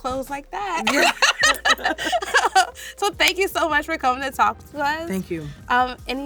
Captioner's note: laughs